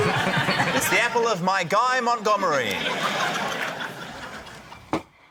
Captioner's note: laughter